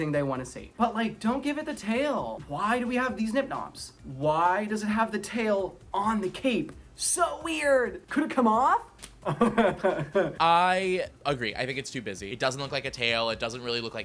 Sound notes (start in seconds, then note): 9.3 laughing